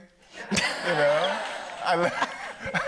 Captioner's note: audience laughs